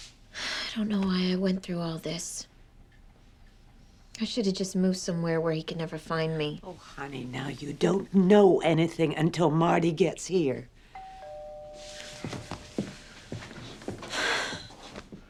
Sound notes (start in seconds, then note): 0.3 exhales; 10.9 doorbell ringing; 14.1 exhales deeply